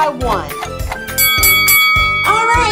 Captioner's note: bell dings